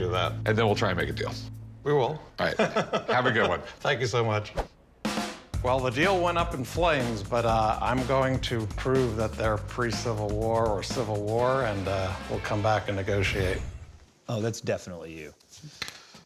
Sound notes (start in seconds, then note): 2.4 chuckles